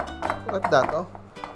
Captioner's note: clank